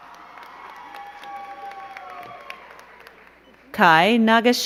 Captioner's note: crowd cheering and clapping